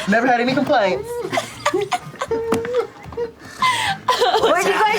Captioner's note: laughter